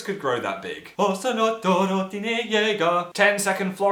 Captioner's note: Hums Attack on Titan theme tune